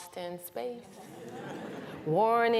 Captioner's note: laughter